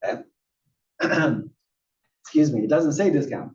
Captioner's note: cough